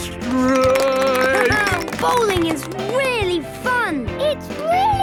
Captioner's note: clapping, laughing